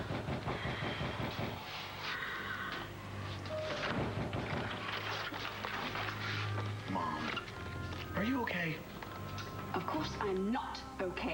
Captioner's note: pounding on door